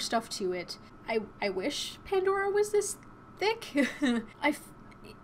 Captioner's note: chuckles